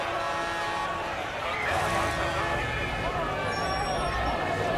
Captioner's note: sirens blaring